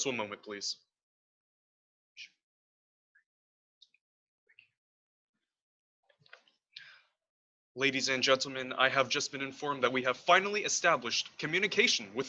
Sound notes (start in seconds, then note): 1.8 whisper